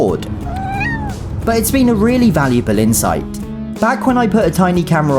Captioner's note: Henry meows